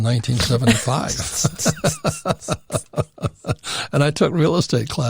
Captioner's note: laughing